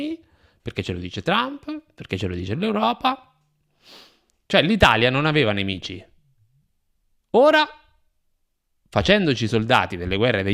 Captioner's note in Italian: sbuffa